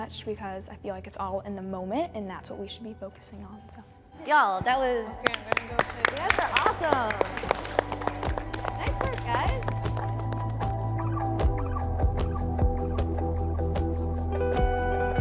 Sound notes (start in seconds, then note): 5.2 group applauding; 10.6 bright upbeat music